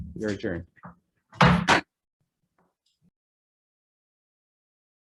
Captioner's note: gavel hammers